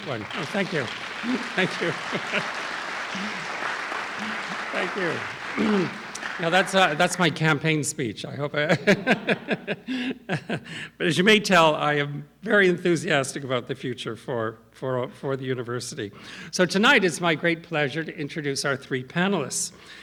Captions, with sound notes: (audience applauding) Oh, thank you. Thank you. (audience applauding) Thank you. Now that's my campaign speech. I hope. (laughs) But as you may tell, I am very enthusiastic about the future for the university. So tonight is my great pleasure to introduce our three panelists,